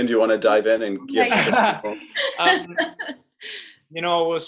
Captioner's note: laughing